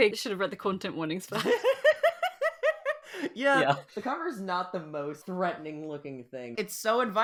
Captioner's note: laughs